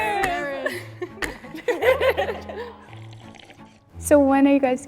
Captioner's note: women laugh